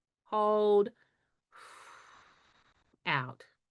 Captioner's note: exhales